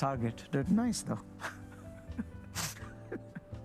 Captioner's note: laughs